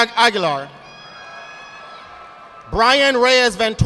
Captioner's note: audience applauding